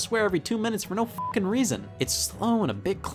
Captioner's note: beep